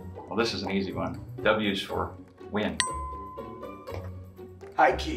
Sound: bell dings

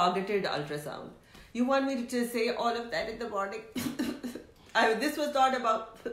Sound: coughs

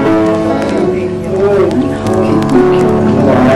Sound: Artemio cooing

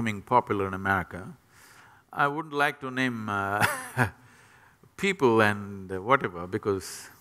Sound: laughs

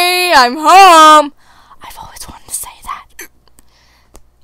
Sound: whispered

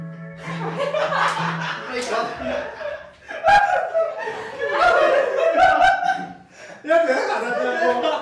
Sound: laughing

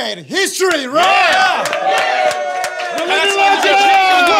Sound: everyone cheering

